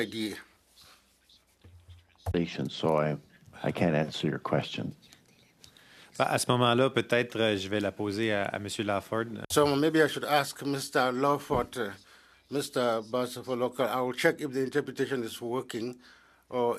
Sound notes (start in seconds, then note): 9.5 speaking in French